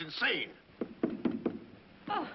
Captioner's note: knocking